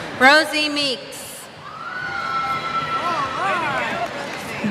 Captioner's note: cheers